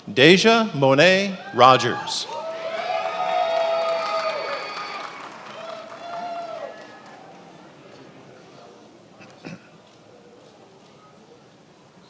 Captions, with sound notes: Daijah Mone't Rogers. (attendees applauding)